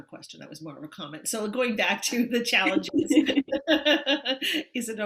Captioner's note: chuckles